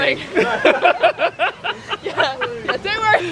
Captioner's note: laughing